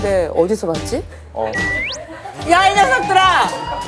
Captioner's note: sip